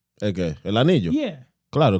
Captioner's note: speaking In Foreign Language